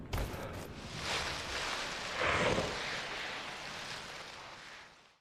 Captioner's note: character breathing heavily